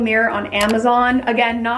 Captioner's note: mouse clicks